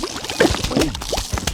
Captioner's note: laughs to myself